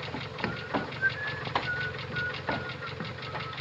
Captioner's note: whistles innocently